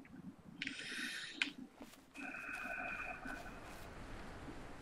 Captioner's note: sighs